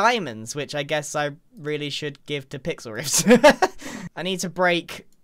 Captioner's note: laughs